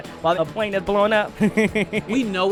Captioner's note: laughing